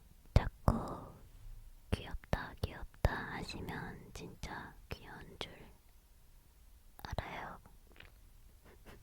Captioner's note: laughing